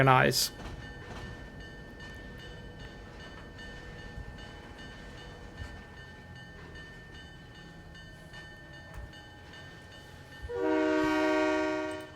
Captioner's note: train whistle